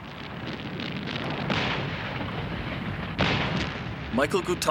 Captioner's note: artillery firing